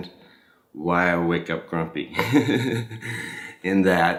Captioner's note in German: lacht